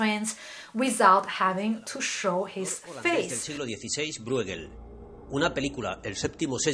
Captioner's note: in Spanish